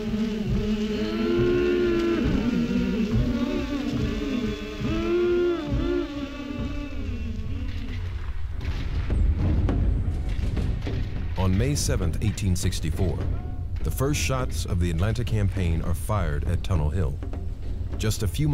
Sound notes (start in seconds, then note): 0.1 humming spiritual song; 7.0 shots fired; 7.0 wind blowing